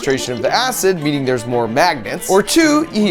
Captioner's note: liquid bubbling